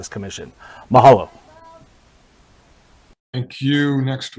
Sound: in foreign language

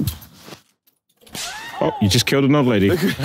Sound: woman screaming; laughs

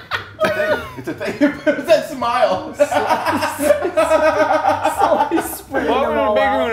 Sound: laugh

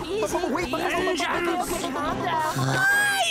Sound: intern blubbering

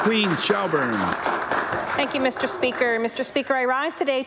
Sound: applause

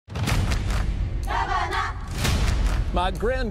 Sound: crowd chanting

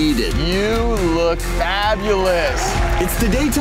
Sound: cheering

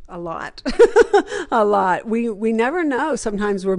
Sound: laughs

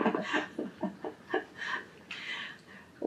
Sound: laughs

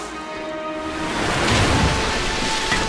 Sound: water splashing

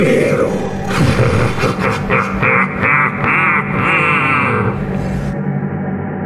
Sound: SCP laughs evilly

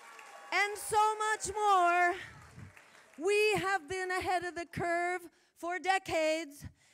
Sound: applause

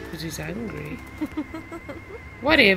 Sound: friend laughing

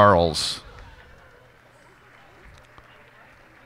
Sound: cheers and applause

